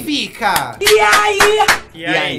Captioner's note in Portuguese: palmas